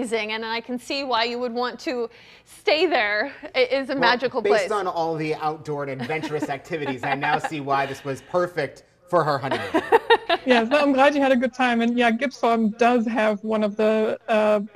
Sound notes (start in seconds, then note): 9.4 chuckles